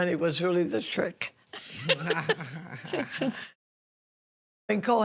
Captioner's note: laughing